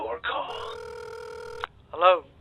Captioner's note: phone ringing